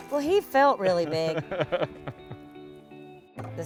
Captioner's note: laughter